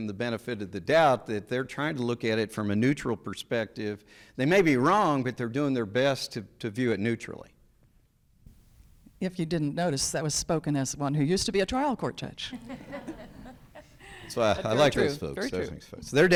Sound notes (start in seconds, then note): 12.5 people laughing